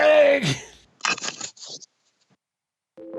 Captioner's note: laughs